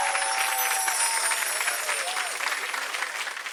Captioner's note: graphic chiming; audience cheering and applauding